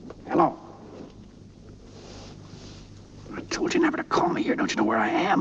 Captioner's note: whispering